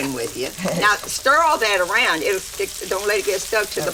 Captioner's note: Dory chuckles